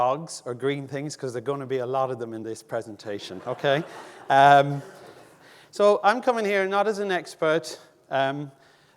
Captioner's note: audience laughing